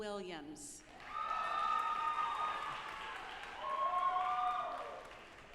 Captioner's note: audience applauding